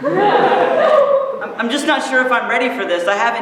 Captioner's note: laughter